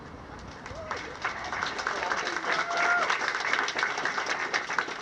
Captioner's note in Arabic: الناس يصفقون